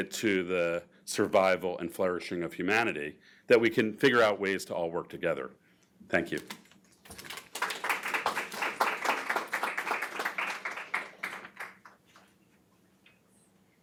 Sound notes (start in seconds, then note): 7.1 audience applauds